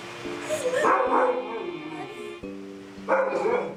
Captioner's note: dog barking